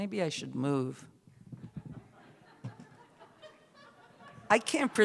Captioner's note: scattered laughter